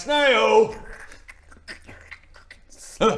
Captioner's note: squelchy snail noises